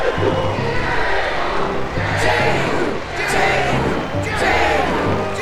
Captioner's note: ਭੀੜ "ਯੇਹੂ" ਦਾ ਜਾਪ ਕਰਦੀ ਹੈ